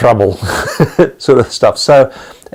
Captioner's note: laughing